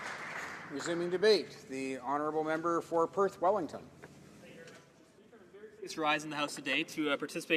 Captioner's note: applause